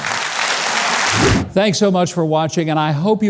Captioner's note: audience clapping; air whooshing